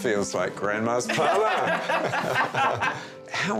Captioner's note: all laughing